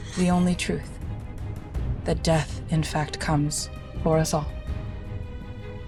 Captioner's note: laughs